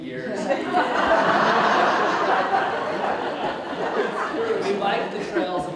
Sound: audience Laughs

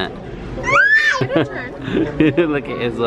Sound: shrieks; chuckles

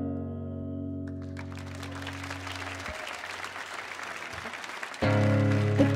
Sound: audience applauding; soft guitar music

